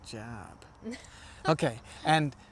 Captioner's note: laughs